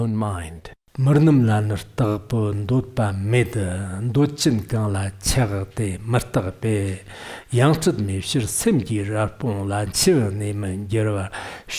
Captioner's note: giving oral transmission in Tibetan